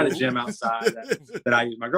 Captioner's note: laughter